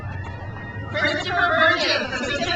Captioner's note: crowd cheers